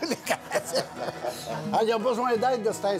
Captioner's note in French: rires